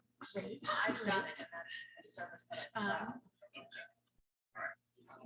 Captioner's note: people chattering indistinctly